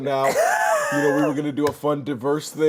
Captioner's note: laughing